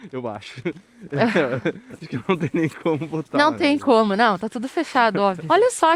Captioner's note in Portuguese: risadas